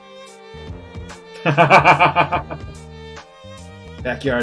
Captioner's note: laughs